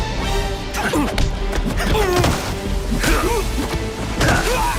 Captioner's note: grunting